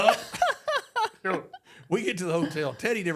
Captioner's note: Michelle laughs